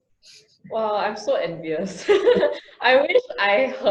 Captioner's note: laughs